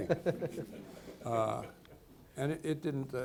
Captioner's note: people laughing